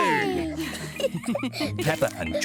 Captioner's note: laughing